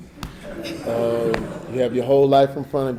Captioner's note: audience laughing